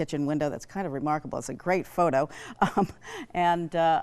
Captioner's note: laughs